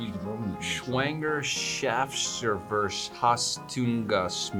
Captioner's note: foreign language